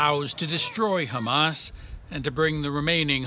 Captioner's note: foreign language